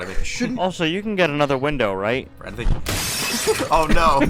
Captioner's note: glass shatters